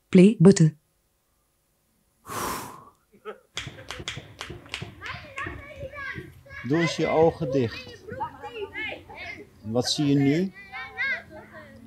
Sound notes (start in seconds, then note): 5.0 children yelling; 6.8 man speaks in foreign language